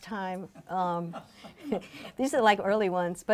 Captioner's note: laughing